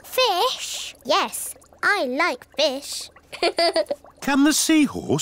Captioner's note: laughs